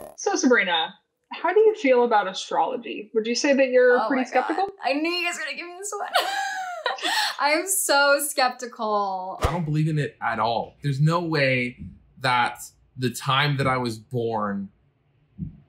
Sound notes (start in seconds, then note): 0.0 mysterious music; 7.2 laughs